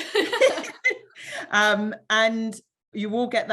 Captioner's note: both laughing